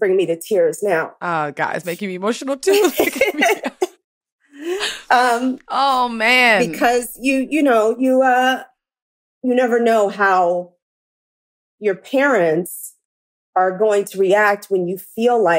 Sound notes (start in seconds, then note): 2.7 laughter